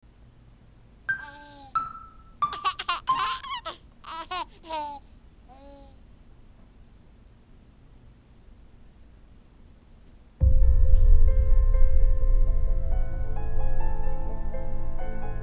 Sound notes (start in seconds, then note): 1.0 baby Babbling and Giggling; 7.4 silence